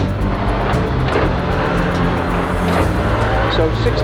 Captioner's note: engine revving